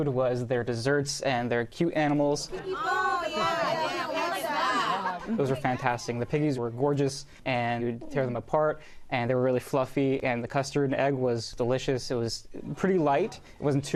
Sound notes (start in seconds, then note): 2.5 excited chatter